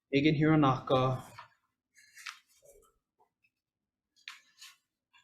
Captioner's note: paper rustling